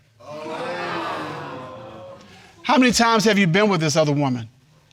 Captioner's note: audience exclaims